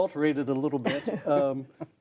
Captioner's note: laughter